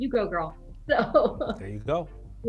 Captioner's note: chuckling